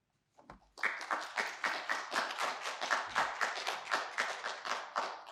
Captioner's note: audience applauding